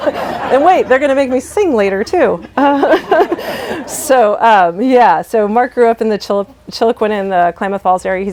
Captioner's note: laughter